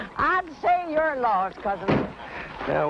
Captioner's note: door thuds close